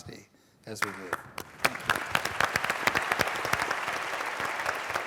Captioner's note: applause